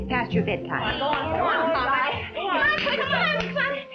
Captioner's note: children fussing